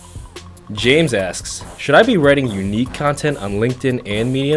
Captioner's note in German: Voice-over